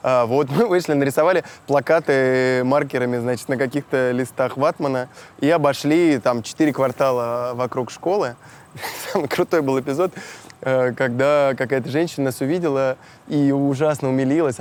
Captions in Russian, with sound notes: Вот, мы вышли. Нарисовали плакаты маркерами, значит, на каких-то листах ватмана. И обошли четыре квартала вокруг школы. (смеясь) Там крутой был эпизод, когда какая-то женщина нас увидела и ужасно умилилась.